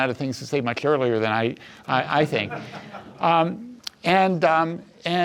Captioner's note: audience chuckles